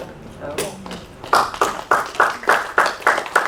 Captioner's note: applause